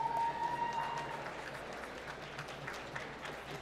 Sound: applause

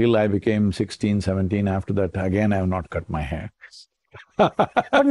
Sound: laughs

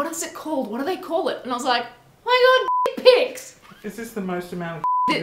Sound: beep; beep

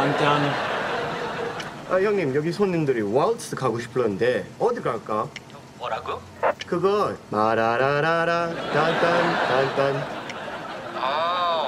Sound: speaking Korean

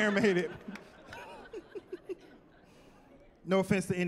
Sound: laughing

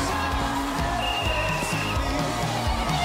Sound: whistle blowing

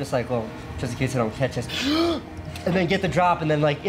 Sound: inhales deeply

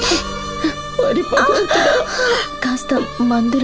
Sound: groans

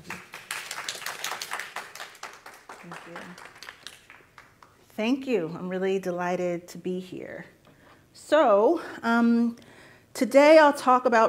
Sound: applause

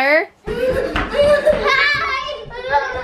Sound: laughing

